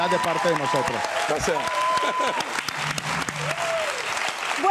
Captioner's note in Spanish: Ríe